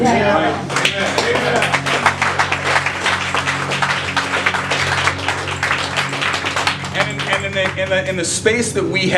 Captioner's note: clapping